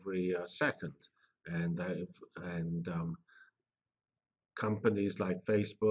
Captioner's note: pause